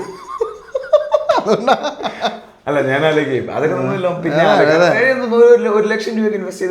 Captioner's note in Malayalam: പൊട്ടിച്ചിരി